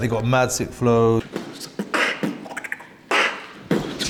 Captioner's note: beatboxes